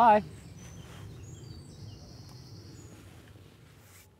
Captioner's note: birds chirping